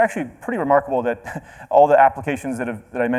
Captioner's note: chuckles